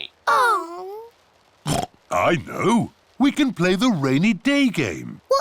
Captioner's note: oinks